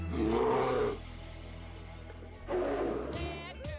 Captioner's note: roars